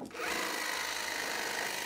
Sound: drilling noises

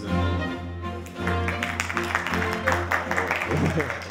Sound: applause

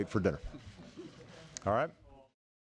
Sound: laughter

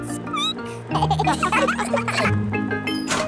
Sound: squeaking; laughter

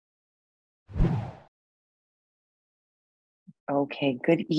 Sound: air whooshes

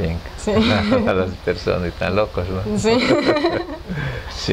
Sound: laughts

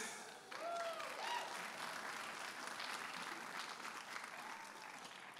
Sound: audience applauding and cheering

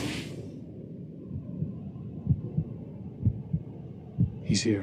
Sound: heart beating

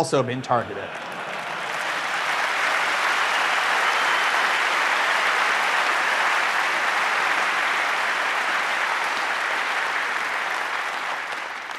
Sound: laughter, applause

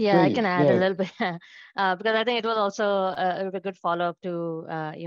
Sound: chuckles

